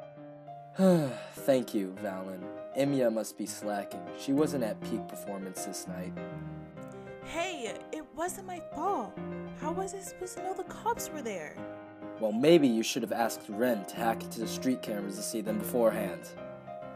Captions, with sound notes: (Sighs) Thank you Valin, Emeya must be slacking, she wasn’t at peak performance this night. Hey it wasn’t my fault! How was I supposed to know the cops were there?! Well maybe you should’ve asked Rin to hack into the street cameras to see them beforehand.